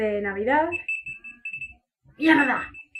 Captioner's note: phone alarm ring